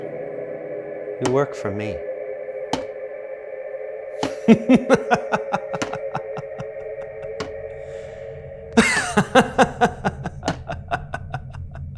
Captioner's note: evil laughter